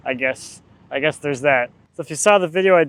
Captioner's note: laughs